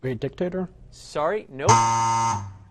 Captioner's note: buzzer